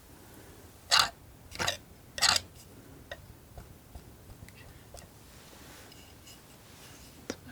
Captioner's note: tapping